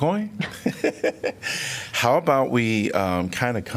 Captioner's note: laughter